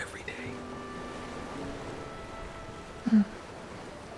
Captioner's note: ocean waves rolling in